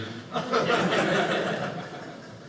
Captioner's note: audience laughing